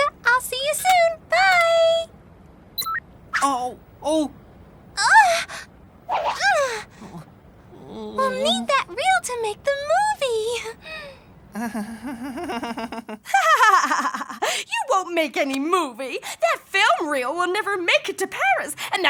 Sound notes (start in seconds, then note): 4.9 Nellie groaning; 11.5 laughs; 11.6 Willy giggling nervously